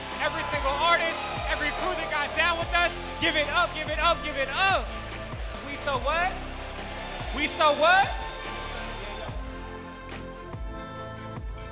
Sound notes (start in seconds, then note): 6.6 crowd; 8.6 crowd